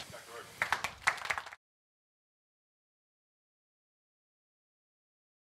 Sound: audience applauding

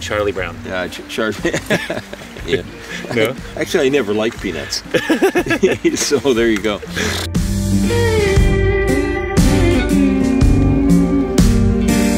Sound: laughing

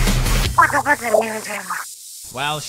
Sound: squid language

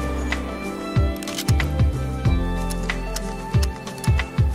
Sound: gun shots blaring; gun cocks

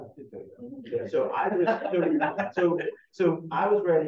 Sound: everyone chuckling

